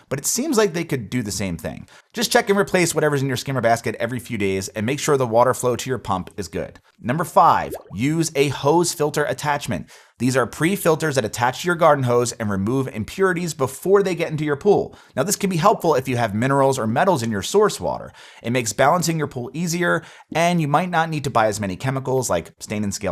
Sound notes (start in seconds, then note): 7.3 graphics popping